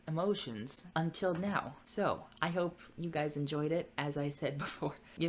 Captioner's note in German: lacht